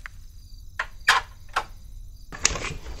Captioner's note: Door opens